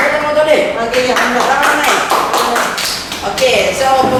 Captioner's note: more claps; claps